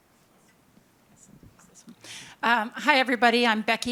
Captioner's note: speaks faintly